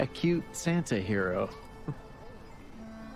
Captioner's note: chuckles